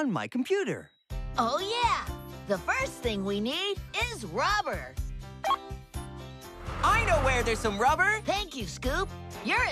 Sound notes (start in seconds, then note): 5.4 computer Beeps